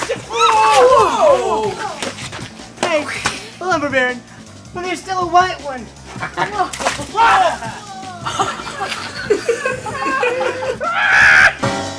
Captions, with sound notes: Whoa! Hey, Lumber Baron there's still a white one. (splash) (laughs)